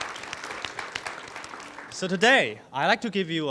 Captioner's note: applause